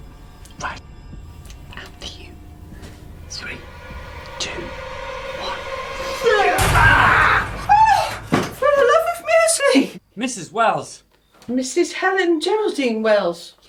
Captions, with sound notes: Shit. - Right, after you. Three, two, one. (dramatic music) (both shouting) (Mrs. Wells yells) - For the love of muesli! - Mrs. Wells. - Mrs. Helen Geraldine Wells.